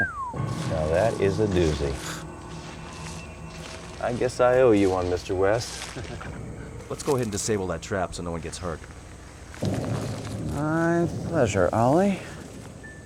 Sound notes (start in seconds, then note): 0.0 whistles; 5.8 chuckles